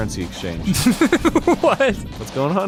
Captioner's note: giggles